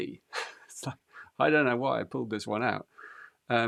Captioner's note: laughs